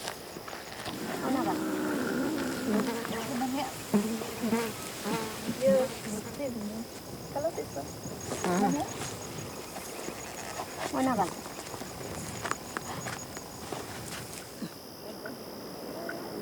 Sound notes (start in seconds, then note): 2.5 fly buzzing; 4.4 speaking foreign language